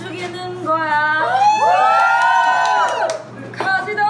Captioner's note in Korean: 환호성